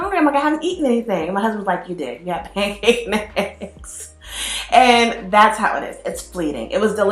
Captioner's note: laughs